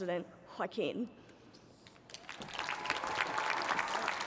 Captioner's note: cheering and applause